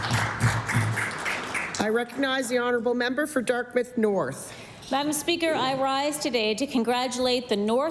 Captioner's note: applause